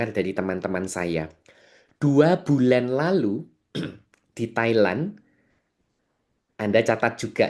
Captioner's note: berdehem